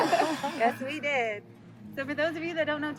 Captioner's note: laughter